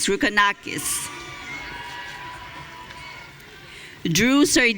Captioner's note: audience cheering